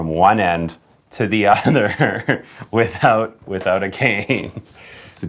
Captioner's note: laughing